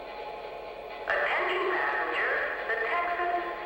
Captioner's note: voiceover